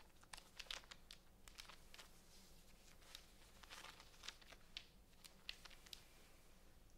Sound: gentle sounds of hands on crinkling plastic

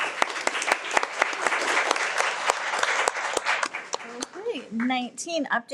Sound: everyone applauds

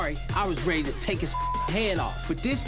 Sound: beep

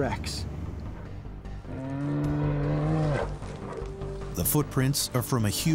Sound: dinosaur trumpeting

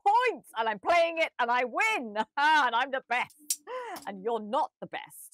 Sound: chuckles

